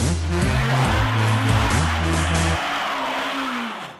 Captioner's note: engine revs